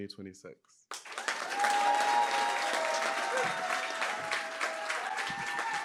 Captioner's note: applause, cheering